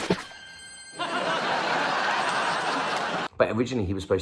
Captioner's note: laughs